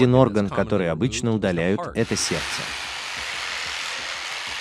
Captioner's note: drilling noise